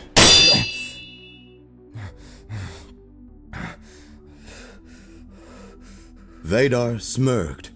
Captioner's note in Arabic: أليكس يتنفس بصعوبة